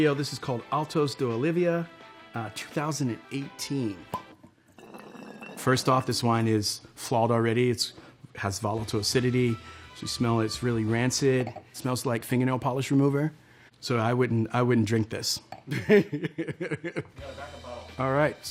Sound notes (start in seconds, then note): 4.1 wine pours; 4.7 cork pops and bottle rolls; 15.7 laughs